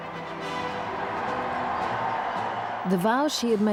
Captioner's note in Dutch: publiek juicht